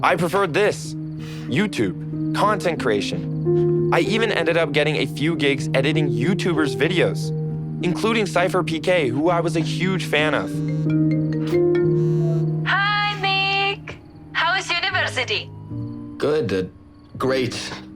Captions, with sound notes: I preferred this… YouTube… content creation. I even ended up getting a few gigs editing YouTuber’s videos... including SypherPK who I was a huge fan of. (cellphone rings) Hi, Nick! How’s university? Good, good. Great!